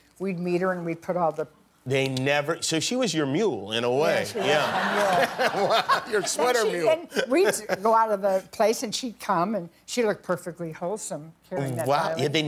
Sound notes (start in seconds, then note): 4.3 laughter